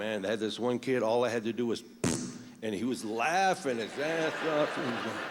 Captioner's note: farts